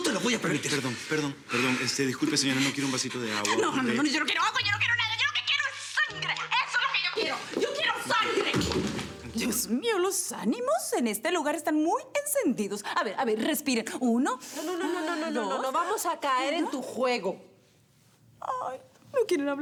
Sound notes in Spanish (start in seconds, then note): 9.2 Susurra